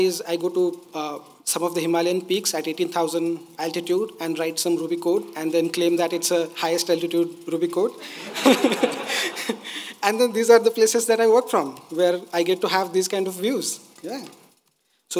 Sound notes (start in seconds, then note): 8.0 laughs; 8.0 audience laughing